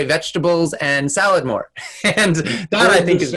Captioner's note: laughs